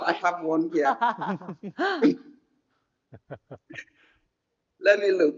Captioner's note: speakers chuckling